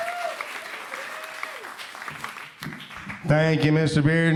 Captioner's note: applause